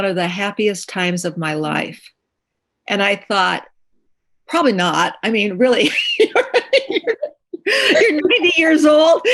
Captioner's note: laughter